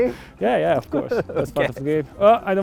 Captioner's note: laughs